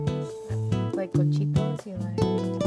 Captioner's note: foreign language